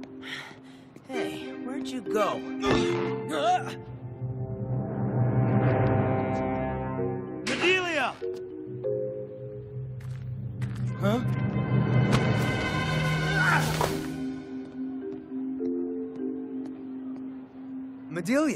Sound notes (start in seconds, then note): none